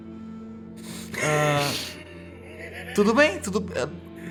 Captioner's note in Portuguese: risadas